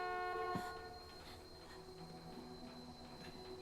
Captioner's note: horn stops